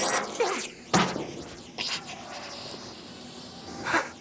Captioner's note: breathing heavily